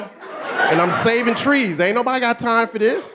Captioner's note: audience laughing